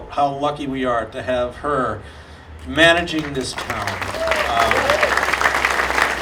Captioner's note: audience applauding